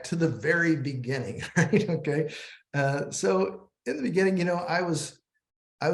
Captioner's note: laughter